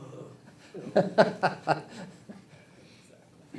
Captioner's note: board member laughs